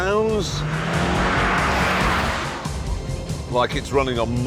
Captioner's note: engine labours